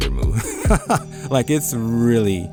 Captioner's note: laughs